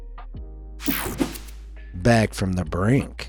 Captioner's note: page swishing; page whooshing